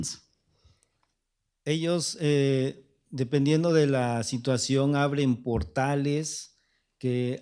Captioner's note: speaking spanish